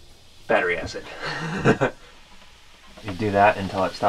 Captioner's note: laughs